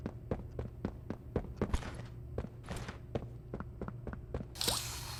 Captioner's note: footsteps